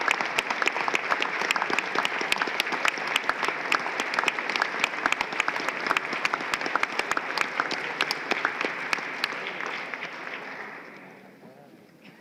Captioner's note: applause